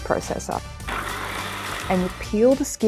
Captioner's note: food processor whirring